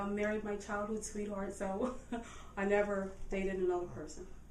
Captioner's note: chuckles